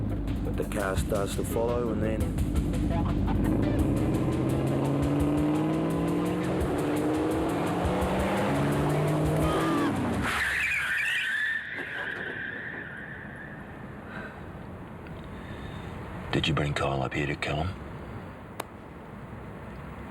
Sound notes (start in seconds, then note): 4.7 car engine blaring; 10.4 car screeching